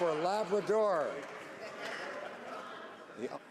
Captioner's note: some Applause